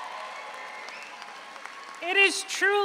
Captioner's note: audience cheers; audience applauds